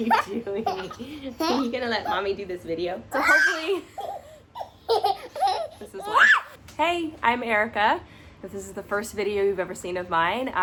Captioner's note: laughing and giggling mom & toddler